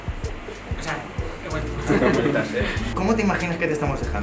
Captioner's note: they laugh